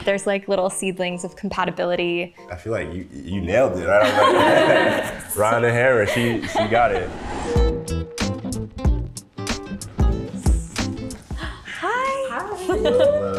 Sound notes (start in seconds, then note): 3.9 all laughing; 7.3 upbeat music